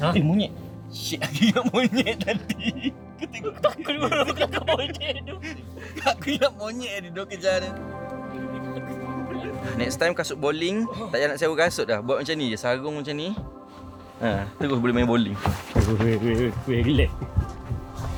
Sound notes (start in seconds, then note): 5.4 laugh; 8.1 laugh